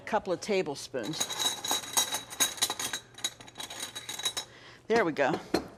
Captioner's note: spoons clanking